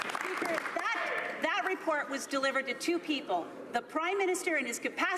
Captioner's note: some Applause